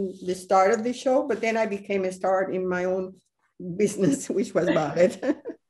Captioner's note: laughter